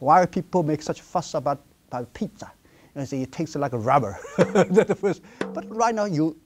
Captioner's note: laughs